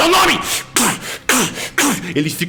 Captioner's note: stab sound